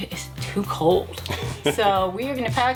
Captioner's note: chuckles